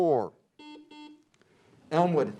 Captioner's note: beep